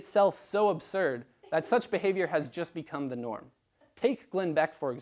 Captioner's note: laugh